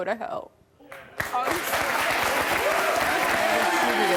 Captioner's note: applause